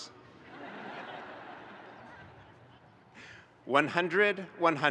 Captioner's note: audience laughing